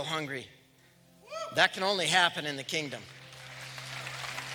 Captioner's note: applause